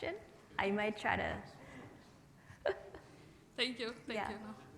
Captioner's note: chuckles